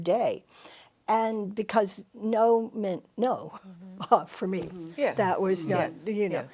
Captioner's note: chuckles